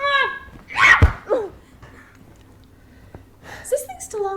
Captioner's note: Jessie screams